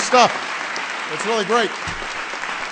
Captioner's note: applause